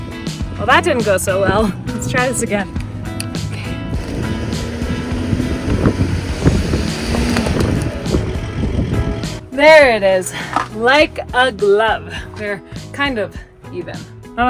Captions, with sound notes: Well, that didn't go so well. Let's try this again. Okay. (van engine revving) (wind whooshing) There it is. Like a glove. They're kind of even.